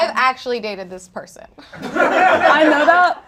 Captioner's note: audience laughs